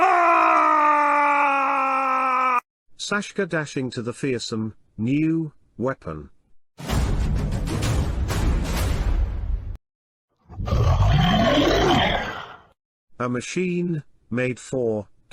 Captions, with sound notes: [Shouting] Saska Dashing To The Fearsome New Weapon - [War Drums] [Monster Roar] A Machine Made For Killing -